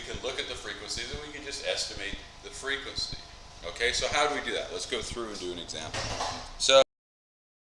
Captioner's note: mic cuts out